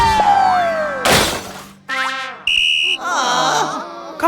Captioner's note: hard thud; kidswatter blows whistle, students groan